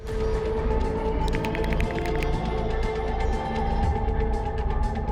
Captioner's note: keys typing